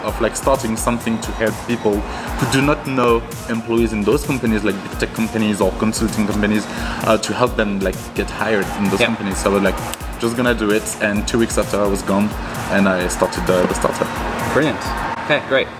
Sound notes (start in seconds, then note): 9.9 snap